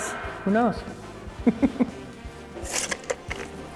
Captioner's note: chuckles